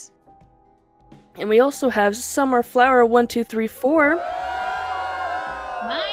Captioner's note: cheering